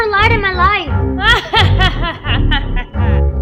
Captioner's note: evil laugh